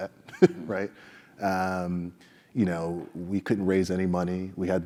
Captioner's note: laugh